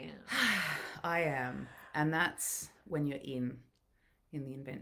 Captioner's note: breathing deeply